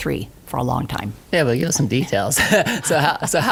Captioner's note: laughs